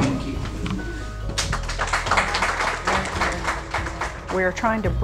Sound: applause

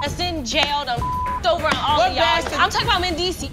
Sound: beep

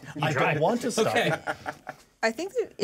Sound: laughs; speaker laughs

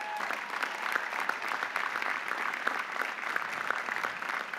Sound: audience applauding

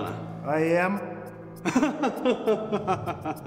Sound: loughs

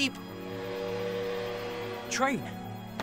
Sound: train whistles

